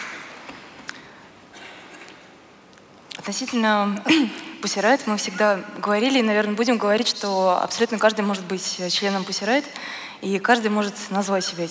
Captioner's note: foreign Language